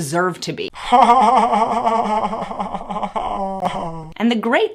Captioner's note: laughs sardonically